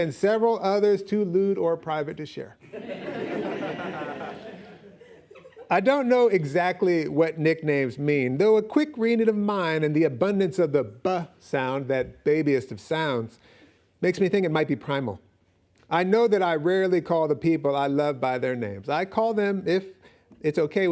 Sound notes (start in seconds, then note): 2.6 audience laughing